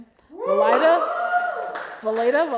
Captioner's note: audience cheering